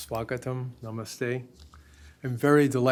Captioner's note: hindi